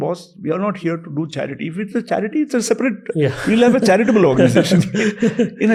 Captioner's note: chuckles